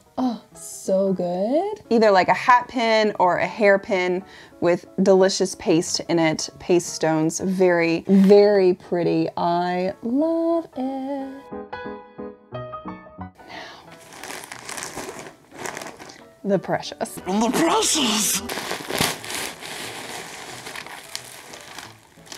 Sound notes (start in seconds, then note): 13.8 package crinkling; 19.3 paper crinkling